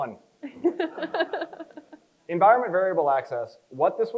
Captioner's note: chuckles